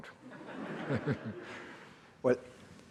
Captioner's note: audience laughing